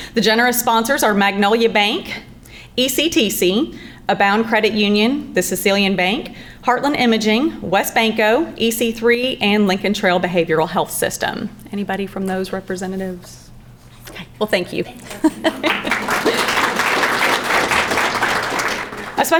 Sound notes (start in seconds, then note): 15.0 laughs; 15.0 crowd clapping